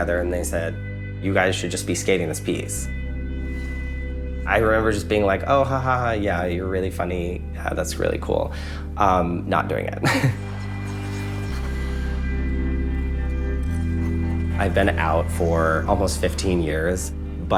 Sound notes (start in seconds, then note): 9.8 sentimental music; 10.0 chuckling; 10.9 skates scraping ice